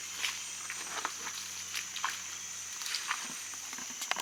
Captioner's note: water splashing quietly